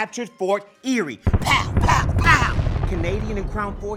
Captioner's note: guns firing